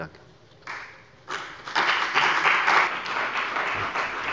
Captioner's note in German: Beifall bei der CDU und dem BÜNDNIS 90/DIE GRÜNEN